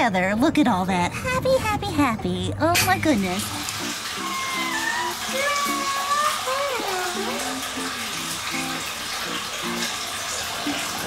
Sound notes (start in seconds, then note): 3.7 running water; 4.3 long meow